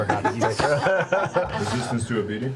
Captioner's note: all laugh